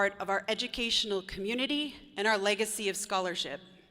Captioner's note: none